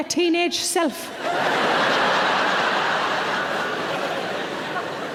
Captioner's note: laughing